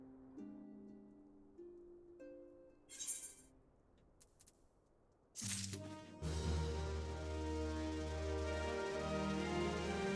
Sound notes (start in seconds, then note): 2.9 shovel scraping; 5.4 soft music